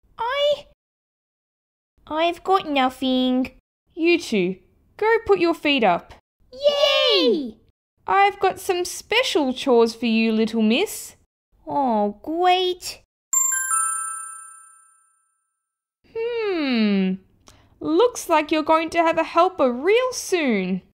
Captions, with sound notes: I... I've got nothing... You two, go put your feet up Yay! I've got some special chores for you, little miss Oh great...! (Ding!) Hmmm... Looks like you're going to have a helper real soon...